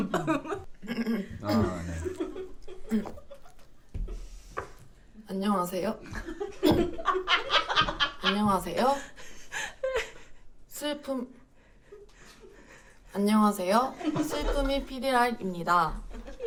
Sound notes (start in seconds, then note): 1.3 clears throat; 6.0 laughing